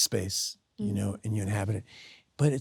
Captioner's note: Sydney hums